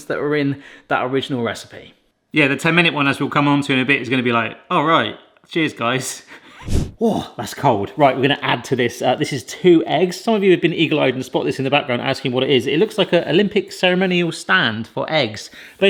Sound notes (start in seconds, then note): 6.4 chuckles